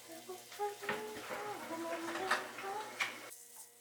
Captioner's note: humming a song